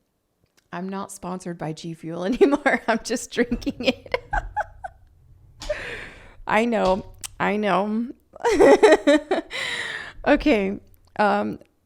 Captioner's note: laughs